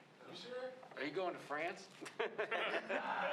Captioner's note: laughter